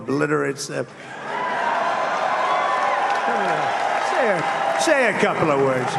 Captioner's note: applause